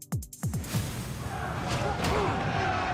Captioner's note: grunts; all clamoring